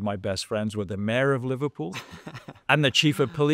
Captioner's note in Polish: śmiech